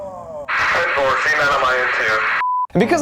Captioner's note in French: Radio police